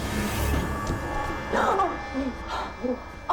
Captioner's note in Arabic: لهاث